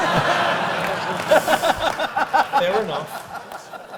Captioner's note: laugh